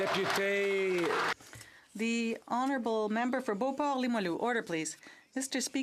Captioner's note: some Applause